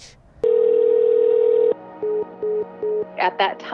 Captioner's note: dial tone beeping; phone dialing